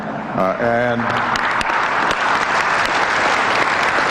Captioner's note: applause